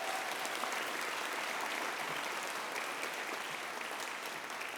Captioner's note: audience applauding